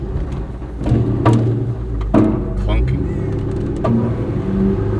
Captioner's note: spring Clunking